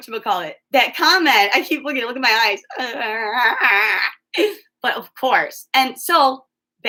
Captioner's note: making goofy sounds